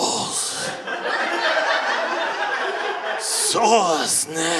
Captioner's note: audience laughing